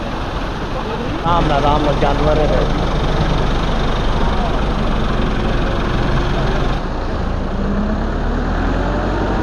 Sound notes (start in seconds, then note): 5.1 sound of tractor